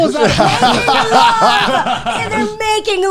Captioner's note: all laughing